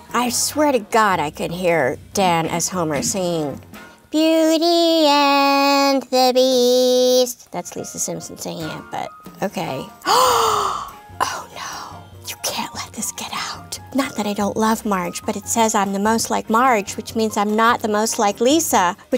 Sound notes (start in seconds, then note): 10.0 gasping